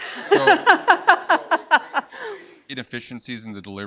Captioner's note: laughs